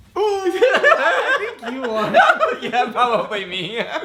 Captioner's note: laughing